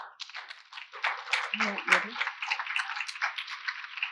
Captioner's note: audience applauds